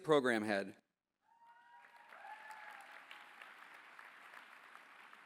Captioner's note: applause